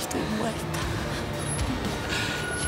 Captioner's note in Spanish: Sollozos